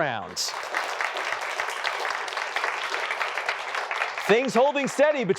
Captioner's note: applause